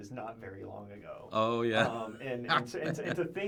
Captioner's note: laughs